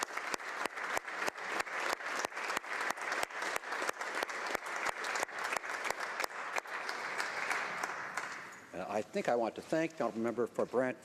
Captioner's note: applause